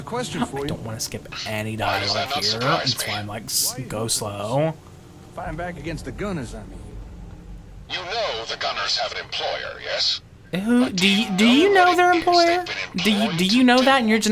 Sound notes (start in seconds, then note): 5.4 laughing